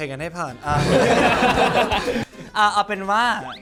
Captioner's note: laughter